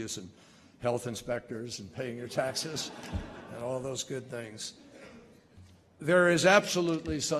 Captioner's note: laughter